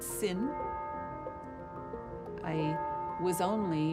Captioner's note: bell tolling